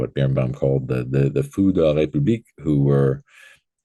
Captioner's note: speaking foreign language